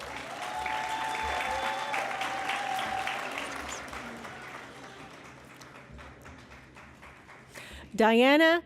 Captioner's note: applause